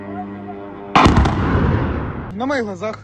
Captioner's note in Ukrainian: звук дрона; вибух